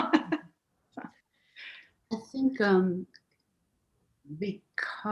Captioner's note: chuckling